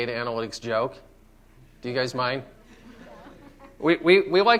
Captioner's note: laughter